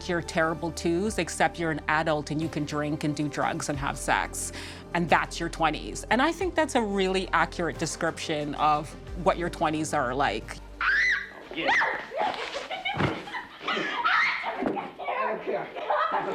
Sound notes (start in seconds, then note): 10.8 woman shrieking; 13.3 woman laughing